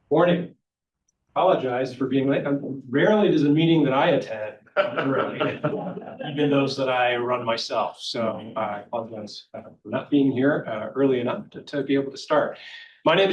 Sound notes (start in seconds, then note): 4.8 trustees chuckling